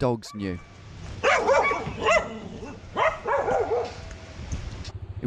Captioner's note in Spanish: ladridos furiosos